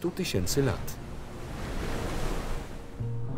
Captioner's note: waves crash